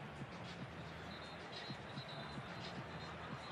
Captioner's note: whistle